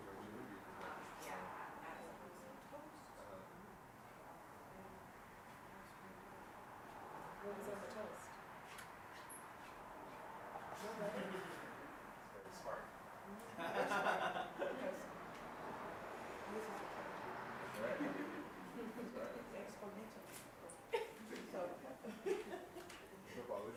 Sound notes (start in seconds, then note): 0.1 participants chattering; 13.5 participants laughing; 20.1 participants chattering